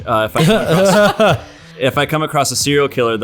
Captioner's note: laughter